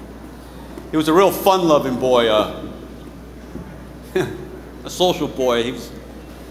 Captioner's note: scoffs